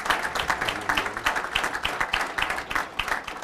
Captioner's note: applause